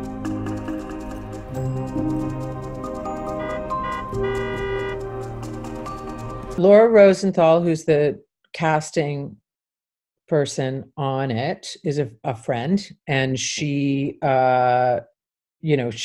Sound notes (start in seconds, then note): 0.0 dramatic music; 3.2 horn honking